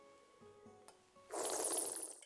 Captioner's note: slurps